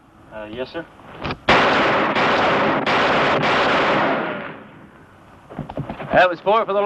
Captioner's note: gunfire